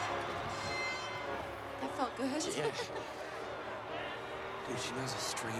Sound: giggles

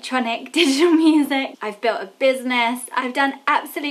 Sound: laughs

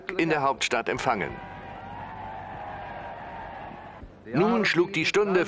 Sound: crowd cheering

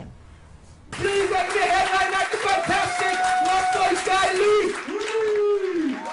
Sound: applause

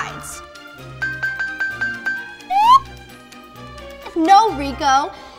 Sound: dinging

